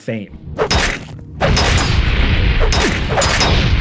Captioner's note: hammer thumps